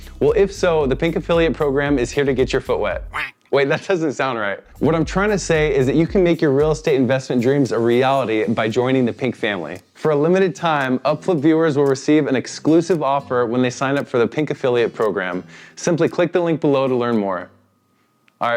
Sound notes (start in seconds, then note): 3.1 duck quacks